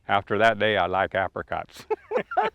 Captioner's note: laugh